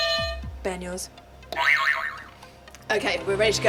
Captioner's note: buzzer 1; buzzer 2